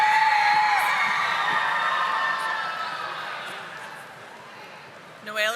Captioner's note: audience applauding